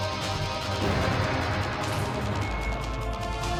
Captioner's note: gunshot